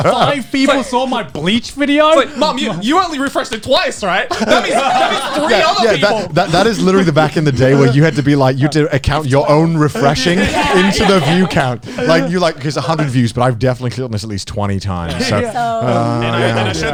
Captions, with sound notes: - Holy shit, five people saw my Bleach video? - It's like, "Mum, you only refreshed it twice, right?" (all laughing) "That means three other people!" - That is literally, back in the day, where you had to be, like, count your own refreshing into the view count. Like, you're like, "There's 100 views, "but I've definitely clicked on this at least 20 times."